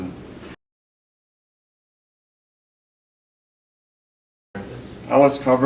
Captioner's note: silence